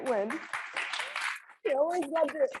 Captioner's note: audience applauding